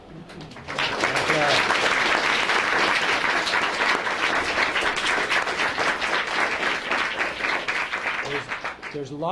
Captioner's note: applause